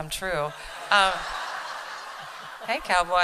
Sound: laughter

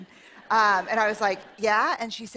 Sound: laughter

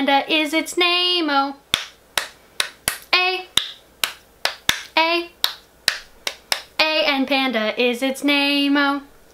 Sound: clap clap clap clap

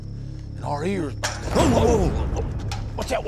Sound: clanking sound

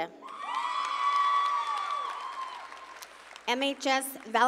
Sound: audience cheering

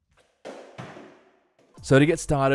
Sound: soft bang

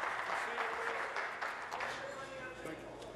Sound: applause

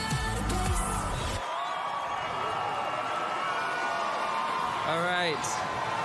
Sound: singing; cheering

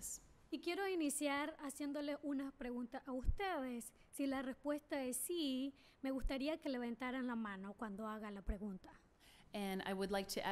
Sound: speaking spanish

